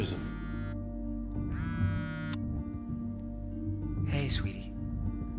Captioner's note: cell phone vibrating